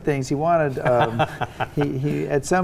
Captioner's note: laughing